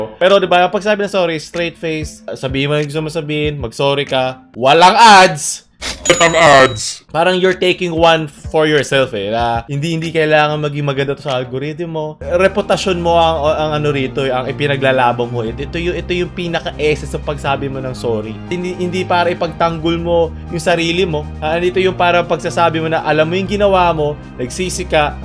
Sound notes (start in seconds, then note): 5.8 ka-ching